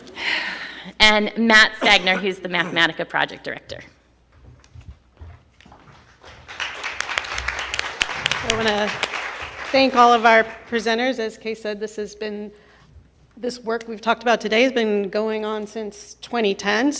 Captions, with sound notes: And Matt Stagner who is the Mathematica project director. (audience applauds) - I want to thank all of our presenters, as Kay said this work we've talked about today has been going on since 2010,